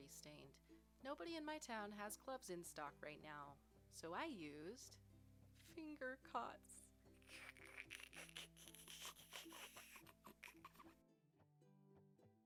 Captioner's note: snicker